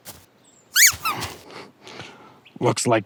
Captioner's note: cartoon squeak